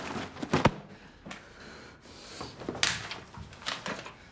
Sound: breathes heavily

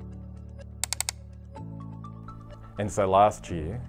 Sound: clicking

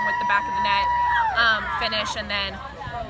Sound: people yelling in celebration

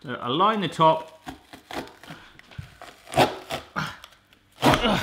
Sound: grunting

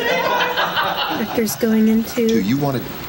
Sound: laughter

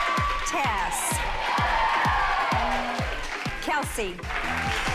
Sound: group cheers; applause

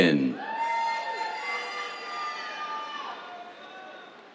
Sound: cheers

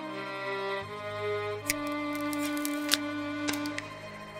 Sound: flesh and bone being cut

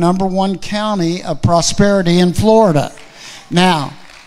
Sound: audience clapping

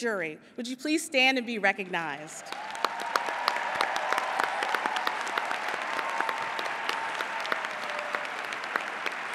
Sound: applause

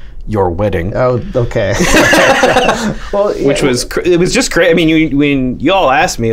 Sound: laughter

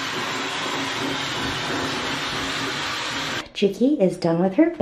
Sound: hairdryer running

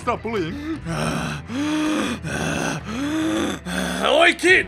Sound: panting

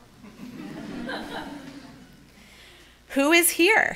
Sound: audience laughing

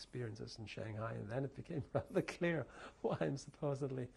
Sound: laughs

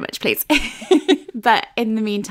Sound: laughing

